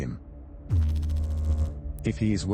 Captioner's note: electrical noise